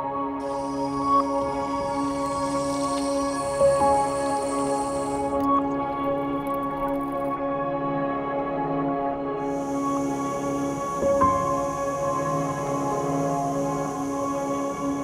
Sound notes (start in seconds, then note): 0.5 faucet running; 7.4 water gurgling; 9.8 stove humming